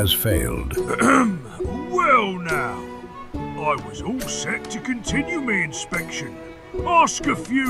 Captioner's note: cough